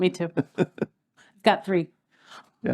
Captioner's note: laugh